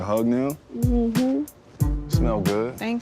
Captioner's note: mmhmms